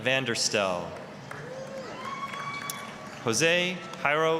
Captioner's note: applause, cheering